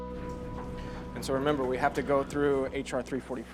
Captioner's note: door rattling